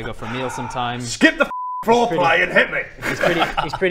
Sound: sigh

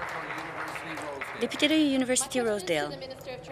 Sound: applause

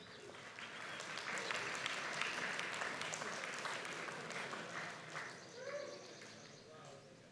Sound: applause

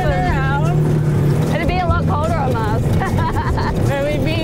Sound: Natalie laughing

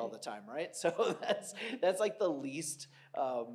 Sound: laughs

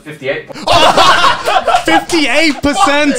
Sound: everyone laughs

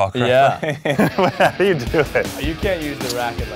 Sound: laughs

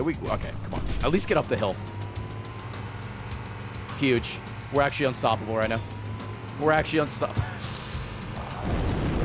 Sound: laughs

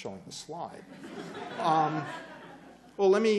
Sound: laughter

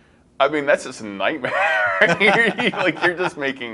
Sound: chuckles

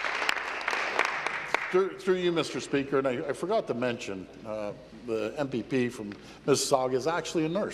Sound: applause

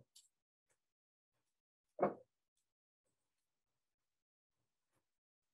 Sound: long Pause Continues

